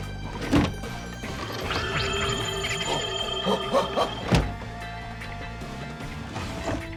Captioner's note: eerie pulsing sound, alien chittering